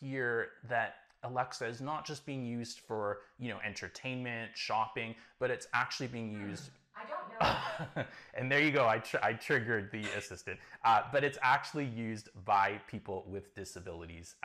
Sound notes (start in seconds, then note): 7.4 chuckles